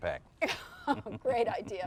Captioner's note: laughs